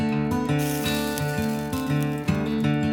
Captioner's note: sizzling